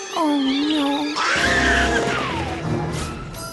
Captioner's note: bunnies scream